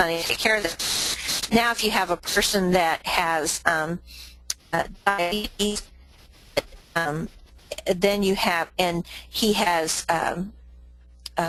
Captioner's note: static audio